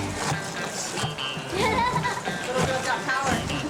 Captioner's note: woman laughs